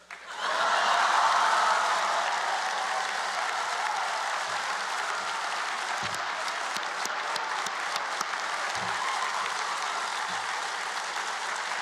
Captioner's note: cheers and Applause